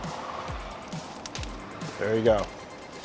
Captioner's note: vines snapping